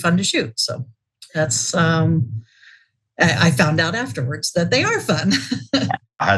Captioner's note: laugh